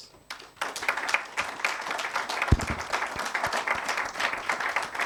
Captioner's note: attendees applauding